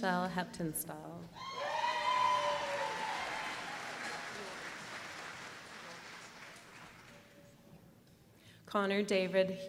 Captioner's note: applause